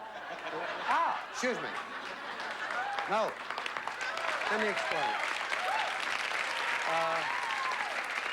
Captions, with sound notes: AH! EXCUSE ME. [APPLAUSE] NO, LET ME EXPLAIN. UH...